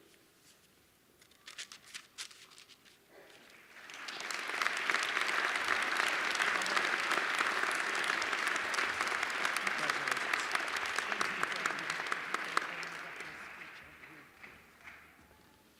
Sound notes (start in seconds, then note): 4.1 applause